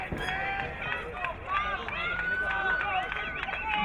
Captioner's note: crowd cheering